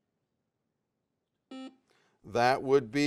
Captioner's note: buzzer sounds